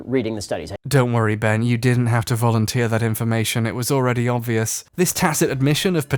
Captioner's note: voiceover, coy deadpan